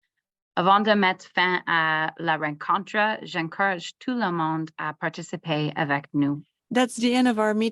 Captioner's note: French